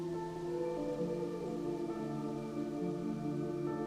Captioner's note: wolf howling